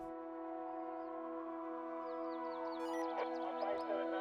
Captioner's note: police sirens